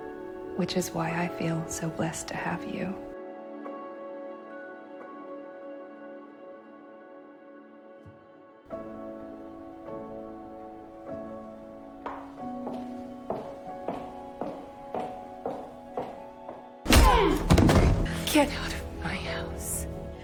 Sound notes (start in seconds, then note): 0.7 voiceover; 16.8 June thuds to the floor